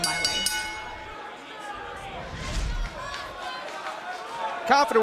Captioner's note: bell